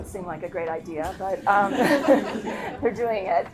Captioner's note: attendees laughing; laughing